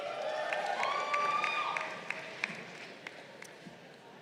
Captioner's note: crowd cheering